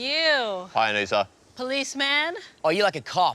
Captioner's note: deep voice